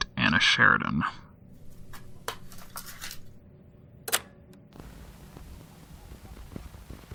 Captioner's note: click; hiss of static, then fades